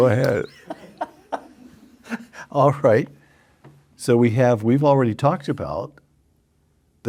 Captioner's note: laughs